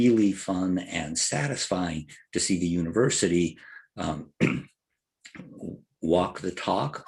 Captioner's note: cough